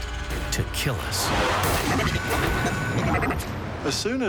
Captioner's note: robotic whirring